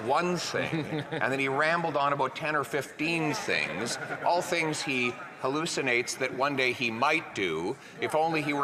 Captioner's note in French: voix de l'interprète